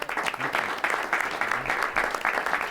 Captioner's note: applause